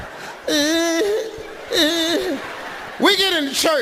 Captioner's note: Steve imitates Ricky groaning